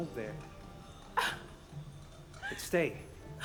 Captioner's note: Gertrude sobs